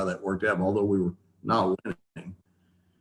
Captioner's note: speaks faintly